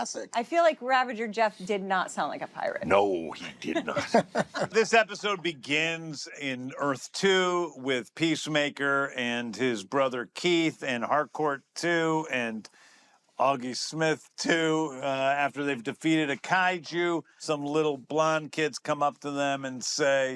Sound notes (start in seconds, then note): 3.6 laughter